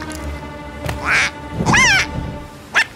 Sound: alarmed

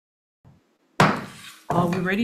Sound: gavel bangs

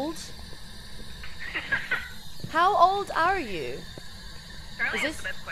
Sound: laugh

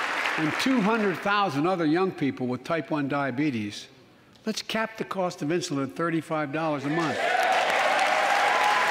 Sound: applause

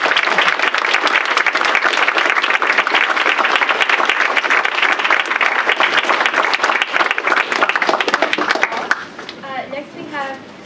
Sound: applause

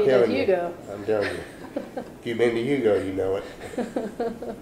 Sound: laughter

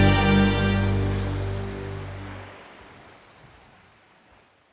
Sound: waves crashing

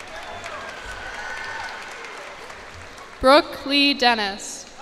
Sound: cheers and applause

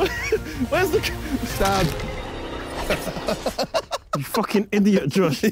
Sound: laughing

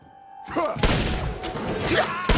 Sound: gunshots; RIPPER EXCLAlMlNG

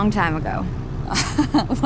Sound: laughing

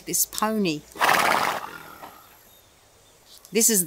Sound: pony neighing

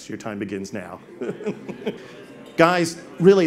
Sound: all laugh

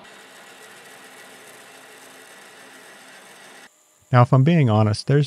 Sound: machine scratches

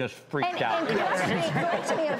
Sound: laughter

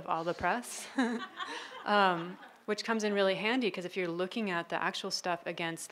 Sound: laughing

